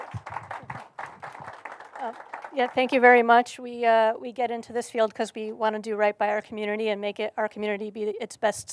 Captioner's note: applause